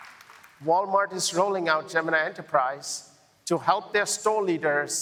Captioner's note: applause